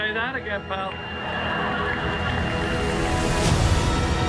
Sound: audience laughing

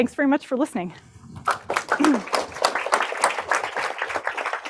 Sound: applause

